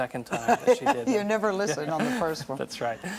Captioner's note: laughs